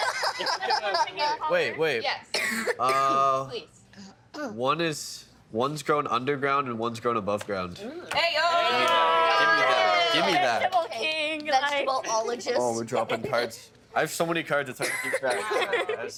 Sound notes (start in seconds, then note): 0.0 laughing; 2.3 coughing